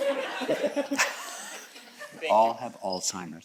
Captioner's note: audience chuckles